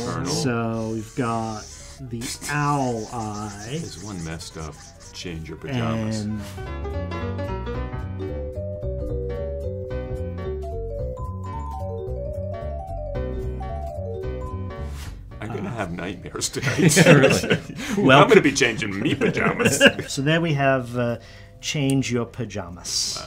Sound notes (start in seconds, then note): 16.5 laugh